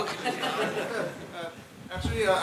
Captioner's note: laughter